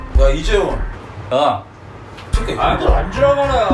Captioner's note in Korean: 웃고 있음